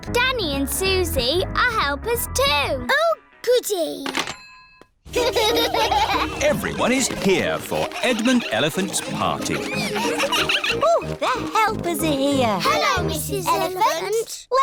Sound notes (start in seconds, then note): 5.3 children laughing